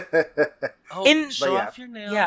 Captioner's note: laughs